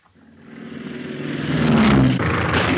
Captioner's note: plane buzzing; gun fires